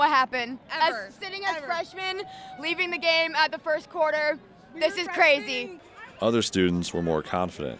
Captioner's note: cheers